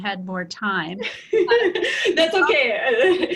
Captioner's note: laughter